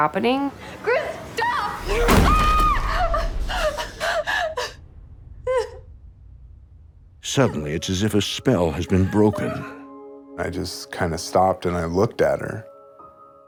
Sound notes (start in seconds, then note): 1.3 Whitney screams; 2.6 Whitney sobbing